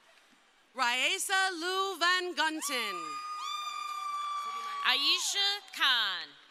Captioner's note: crowd cheering